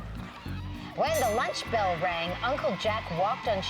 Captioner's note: bell ringing